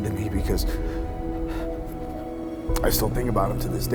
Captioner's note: whimpering